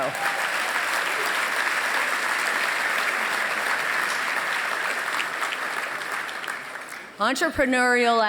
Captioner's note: applause